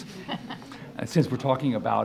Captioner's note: audience laughs